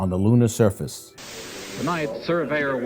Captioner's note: static